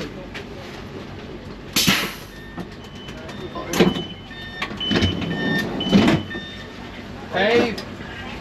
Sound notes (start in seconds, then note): 2.2 door beeping